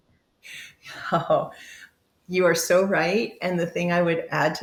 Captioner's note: chuckles